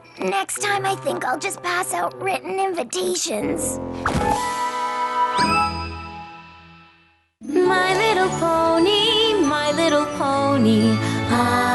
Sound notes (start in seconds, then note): 4.1 thud!